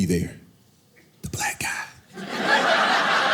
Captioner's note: whispering; audience laughing